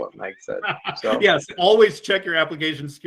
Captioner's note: laughs